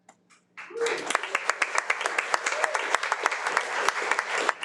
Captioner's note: audience applauding